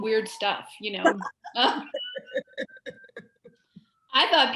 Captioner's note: laughs